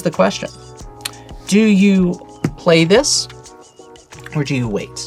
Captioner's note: taps table